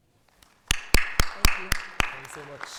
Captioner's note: audience applauding